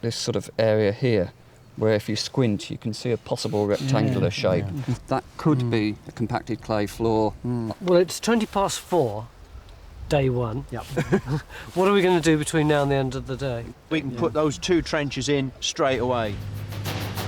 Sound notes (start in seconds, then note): 10.8 laugh